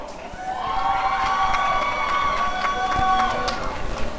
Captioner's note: applause and cheering